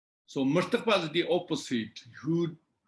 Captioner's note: tibetan